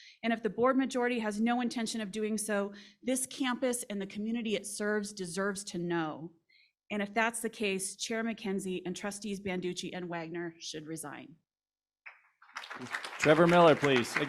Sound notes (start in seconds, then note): 12.4 applause